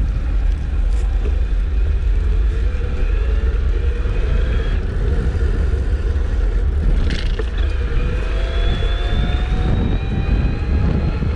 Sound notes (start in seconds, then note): 0.3 motor whirring; 6.7 motor whirring